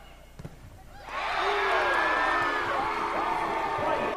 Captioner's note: loud cheering